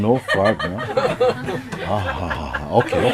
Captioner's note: laughter